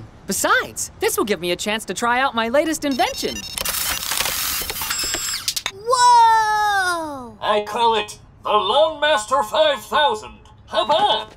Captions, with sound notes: Besides, this will give me a chance to try out my latest invention. - Whoa! (robotic voice) - I call it the Lawn Master 5000. Hop on.